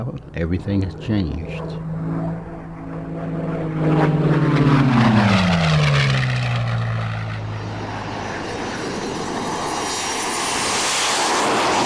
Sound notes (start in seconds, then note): 2.3 engine buzzing